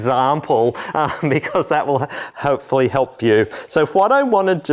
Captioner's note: laughter